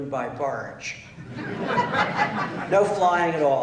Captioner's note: laughter